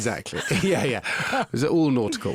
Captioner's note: laughing; interviewer laughing